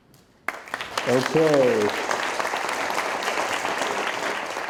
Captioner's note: audience applauding